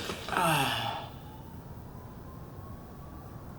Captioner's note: sighs